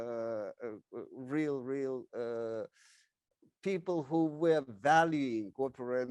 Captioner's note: speaks in foreign language